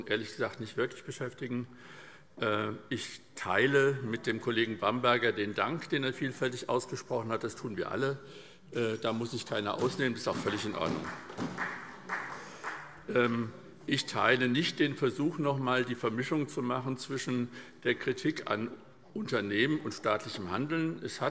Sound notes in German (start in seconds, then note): 12.6 Beifall SPD